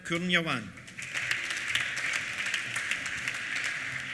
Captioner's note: applause